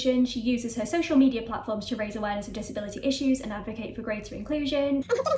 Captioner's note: sped up talking